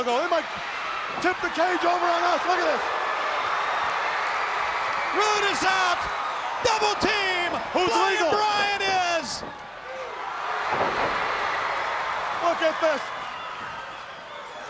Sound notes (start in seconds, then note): 3.7 crowd roaring; 10.7 crowd shouting